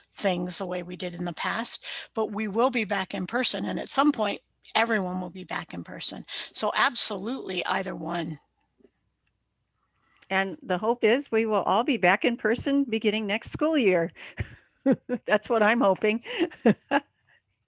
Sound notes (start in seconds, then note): 14.8 laughs